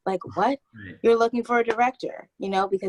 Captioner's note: laughs